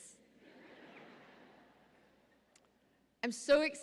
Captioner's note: audience laughing